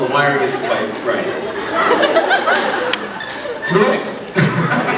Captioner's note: scattered laughs; laughs